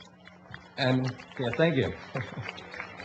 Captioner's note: applause